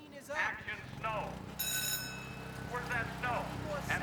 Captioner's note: bell rings